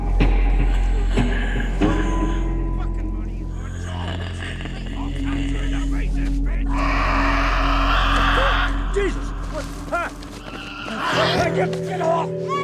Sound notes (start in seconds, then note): 0.2 menacing music; 6.7 Eddy shrieking